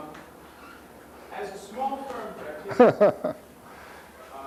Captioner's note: laughs